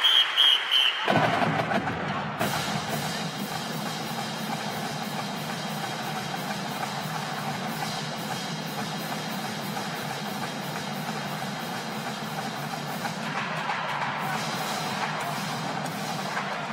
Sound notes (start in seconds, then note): 0.0 cheers & Applause; 4.8 whistle